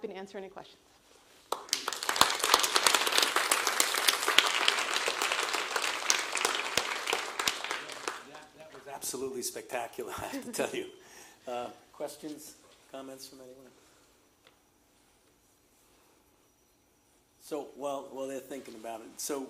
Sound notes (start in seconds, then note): 1.4 applause